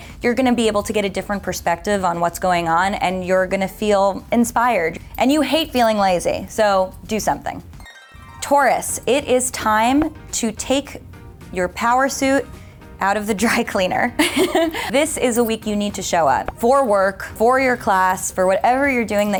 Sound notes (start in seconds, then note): 7.8 harp music; 14.1 laughs